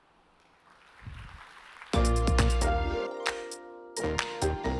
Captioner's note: applause